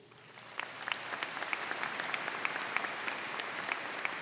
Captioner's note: crowd clapping